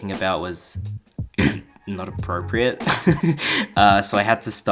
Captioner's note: clears throat; laughs